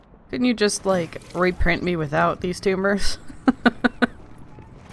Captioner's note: laughs